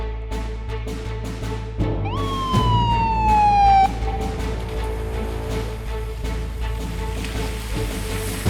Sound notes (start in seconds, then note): 2.0 siren blaring